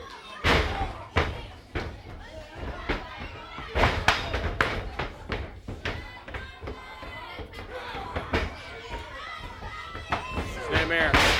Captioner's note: crowd chatter